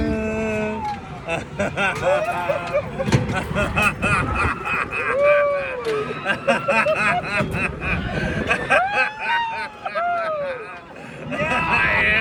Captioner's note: more laughter